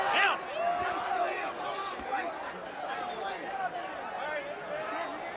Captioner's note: crowd shouting